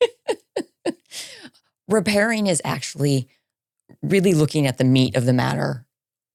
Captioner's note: laughing